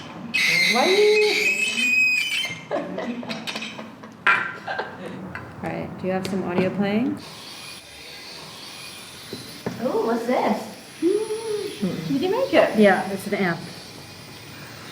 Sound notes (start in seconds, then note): 0.3 electronic screech; 2.6 chuckle off-screen; 9.4 another voice, curiously